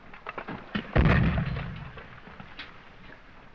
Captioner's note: explosion